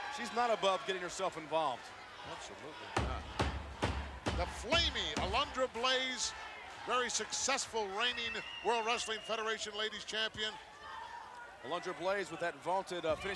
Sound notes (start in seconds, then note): 2.9 ring mat banging